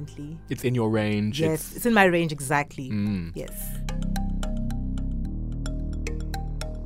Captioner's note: voiceover